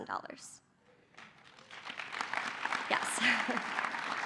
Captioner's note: applause